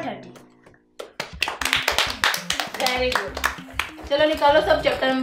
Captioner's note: Clapping